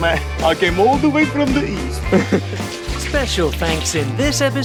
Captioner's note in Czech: S ruským přízvukem